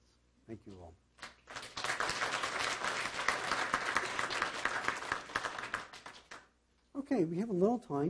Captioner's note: applause